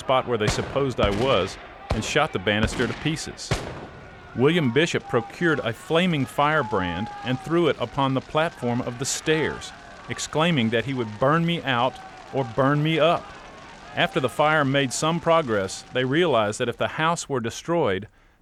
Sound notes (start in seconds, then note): 3.0 rifle shots